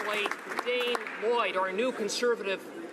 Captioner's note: some Applause